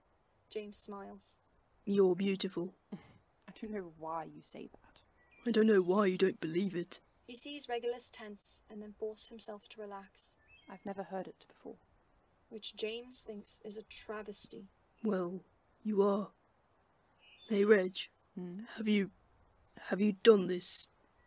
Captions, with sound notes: James smiles. “You’re beautiful.” [Regulus scoffs] “I don’t know why you say that.” “I don’t know why you don’t believe it.” He sees Regulus tense and then force himself to relax. “I’ve never heard it before.” Which James thinks is a travesty. “Well, you are.” “Hey Reg?” “Mm?” “Have you—have you done this,"